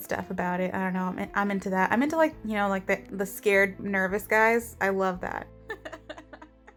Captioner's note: distant laughter